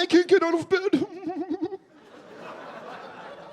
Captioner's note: mockingly sobbing